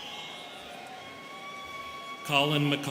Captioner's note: students cheering